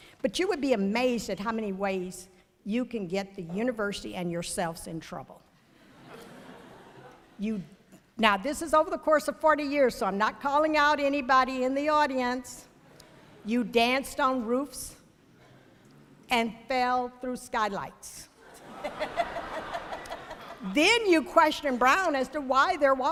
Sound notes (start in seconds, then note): 5.7 ~laughter~; 18.4 ~laughter~